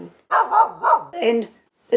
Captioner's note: dog barking